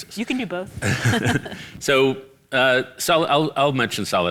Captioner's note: both laugh